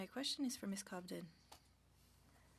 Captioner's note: speaking French